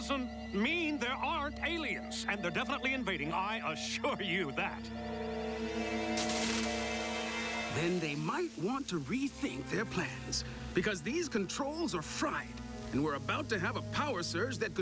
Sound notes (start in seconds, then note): 3.2 chuckling